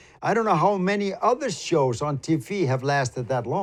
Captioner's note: none